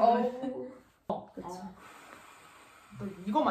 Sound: blowing on the lid

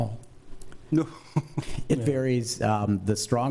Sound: laughter

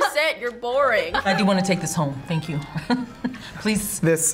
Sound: laughs

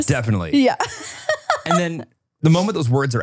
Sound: laughs

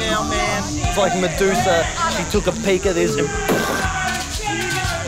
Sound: sputters

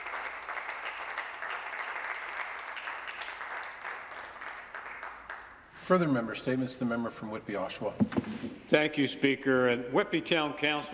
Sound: applause

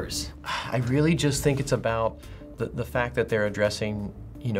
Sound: sighs

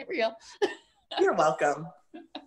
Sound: laughs

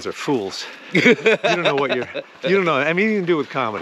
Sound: Ron laughing

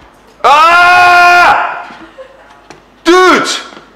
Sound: nervous laughter

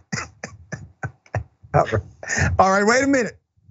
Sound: laugh

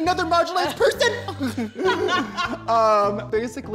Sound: both laugh

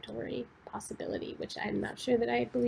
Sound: none

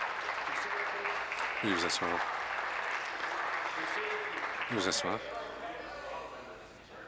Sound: applause

